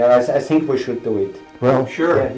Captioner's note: non-english